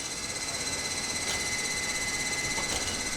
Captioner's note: machine noise